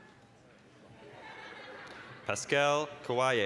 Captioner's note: audience laughing